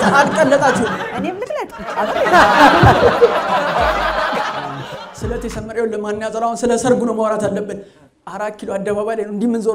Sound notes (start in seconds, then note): 1.6 laughter